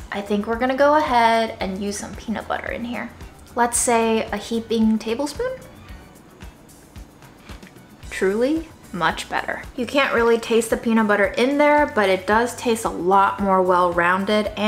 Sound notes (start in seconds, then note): 5.7 upbeat instrumental music; 7.3 food crunching